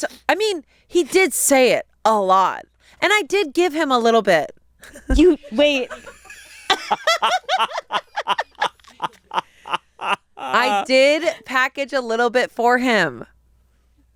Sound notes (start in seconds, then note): 5.9 all laugh